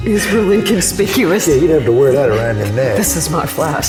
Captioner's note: laughs